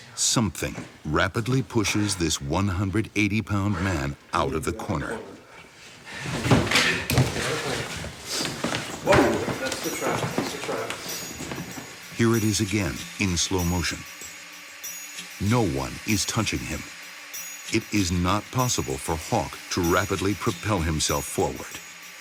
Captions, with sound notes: Something rapidly pushes this 180 pound man out of the corner. - Whoa, that's the trap, that's the trap. - [Voiceover] Here it is again, in slow motion. No one is touching him. It is not possible for Hawk to rapidly propel himself forward.